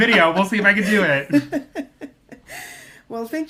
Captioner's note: laughs